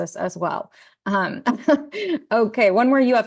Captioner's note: laughing